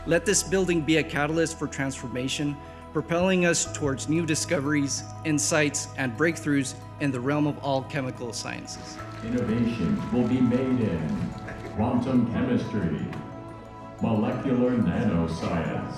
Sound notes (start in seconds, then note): 8.9 audience clapping